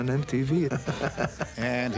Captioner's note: laughs